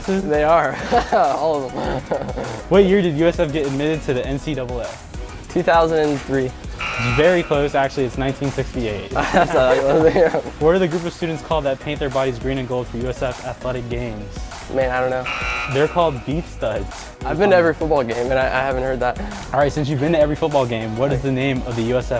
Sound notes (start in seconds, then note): 0.6 laughs; 4.9 error Buzzer; 9.1 laughs